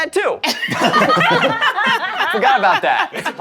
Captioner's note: all laughing